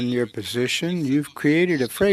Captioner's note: speaking French